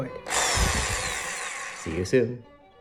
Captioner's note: drill whirring